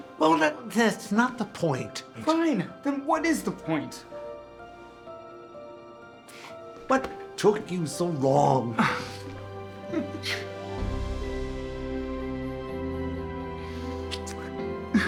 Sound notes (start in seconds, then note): 4.1 romantic music plays; 9.8 the sound of kissing; 10.0 Jesse exhales; 11.8 romantic music plays; 14.8 Jesse and Florio giggle